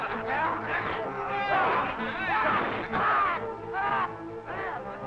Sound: troops screaming

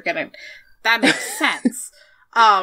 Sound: laughs

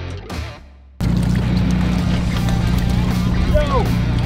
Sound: water splashes

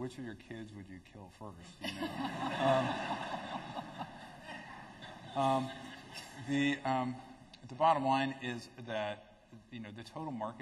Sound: laughter

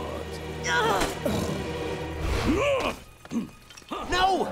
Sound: grunting

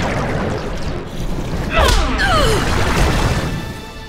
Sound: fighting grunts and impacts

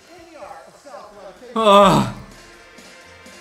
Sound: moans

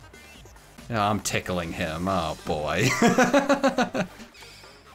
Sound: laughs

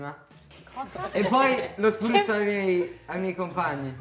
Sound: coughs

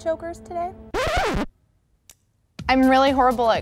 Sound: zipper zipping

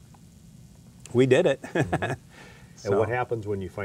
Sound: chuckles

